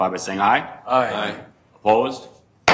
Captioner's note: multiple voices